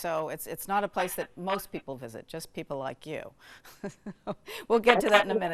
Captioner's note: laughs